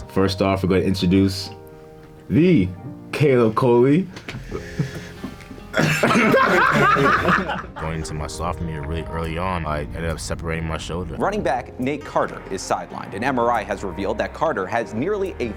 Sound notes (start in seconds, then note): 5.8 laughing